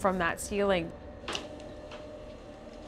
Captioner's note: creaking